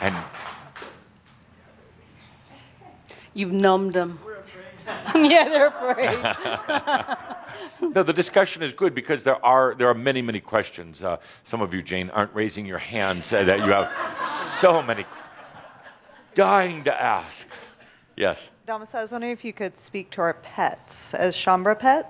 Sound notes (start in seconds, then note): 4.8 laughter; 13.4 some laughter